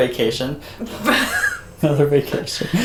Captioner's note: laughter